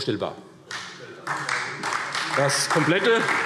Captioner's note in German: Beifall SPD